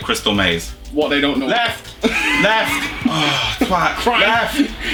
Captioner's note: sigh